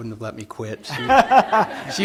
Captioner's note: laughter